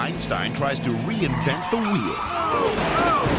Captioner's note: tire squealing; monocycle crashing